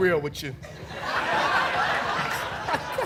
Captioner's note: laughter